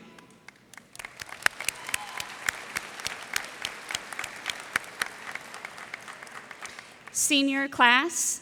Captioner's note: applause